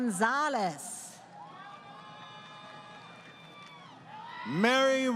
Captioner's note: crowd Cheering